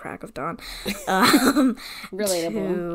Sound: laughs

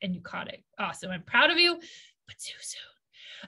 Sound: whispers

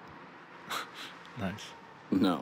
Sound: laughs

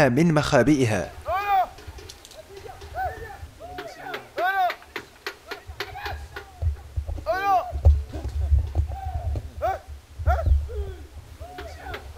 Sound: shouts of the chasers

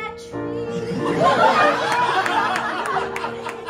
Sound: laughter

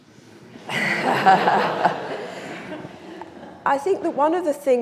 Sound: audience laughing

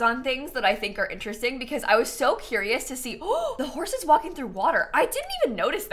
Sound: gasps

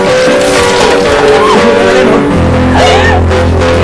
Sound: shrieks

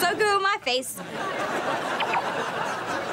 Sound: laughing

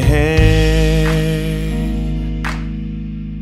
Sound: hands clap

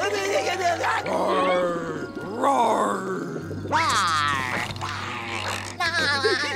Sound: roaring; giggling

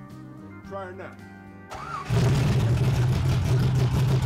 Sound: car cranking

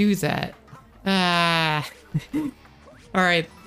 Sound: giggle

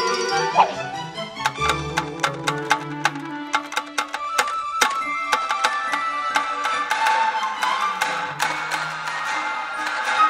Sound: loud tapping

